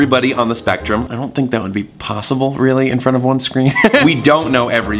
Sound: laughs

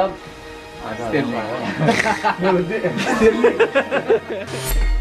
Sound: laughter

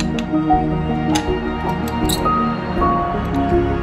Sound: squeak of quoin key

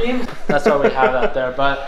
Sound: laughs

